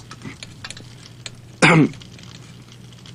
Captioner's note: coughs